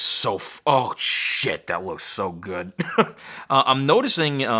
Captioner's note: chuckles